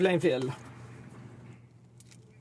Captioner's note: speaking French